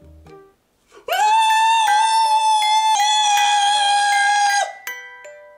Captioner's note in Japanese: 泣き叫ぶ